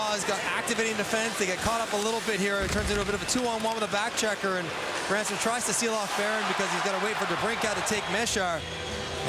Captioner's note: cheering and Applause